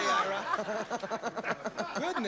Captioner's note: laughter